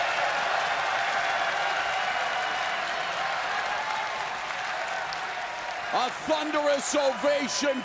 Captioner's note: crowd cheering